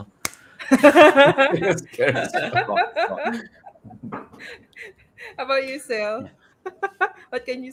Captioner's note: laughter